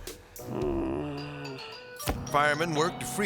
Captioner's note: crook moaning